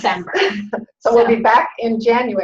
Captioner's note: laughs